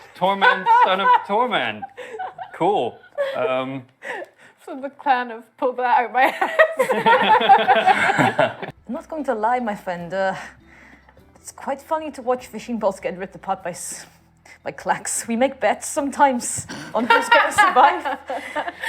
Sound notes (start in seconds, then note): 6.5 laughing